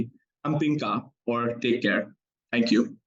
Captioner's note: speaking in foreign language